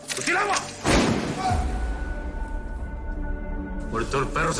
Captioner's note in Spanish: Disparo